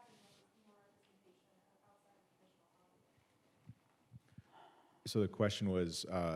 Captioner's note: none